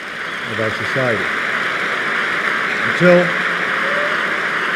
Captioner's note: applause